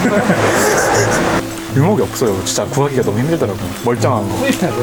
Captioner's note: laughs